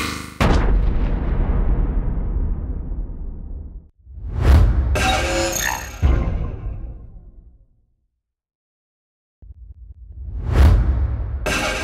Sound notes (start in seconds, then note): 0.4 boom!; 3.8 swoosh!